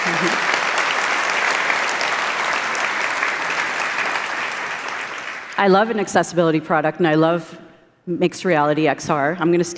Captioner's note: applause